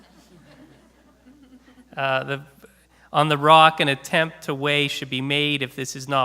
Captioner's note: laughter